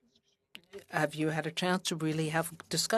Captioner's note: speaking French